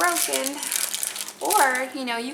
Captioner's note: package crackling